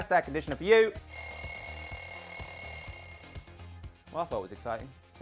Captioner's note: bell rings